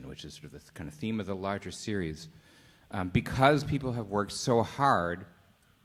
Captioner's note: none